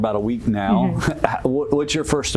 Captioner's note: chuckles